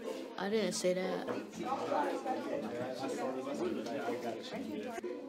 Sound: crowd chattering indistinctly

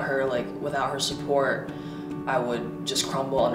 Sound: none

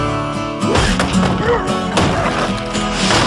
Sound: thudding

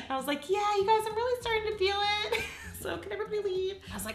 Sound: laughs

